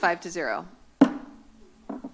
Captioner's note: gavel tap